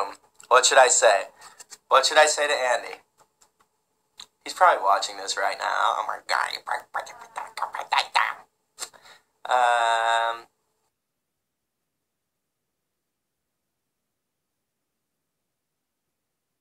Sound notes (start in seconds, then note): 5.5 mouth noises, no words; 11.1 video lost connection, no sound